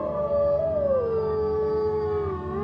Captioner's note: howling